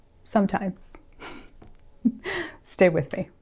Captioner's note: chuckles